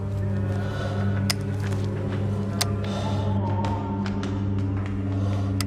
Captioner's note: wire cutters snipping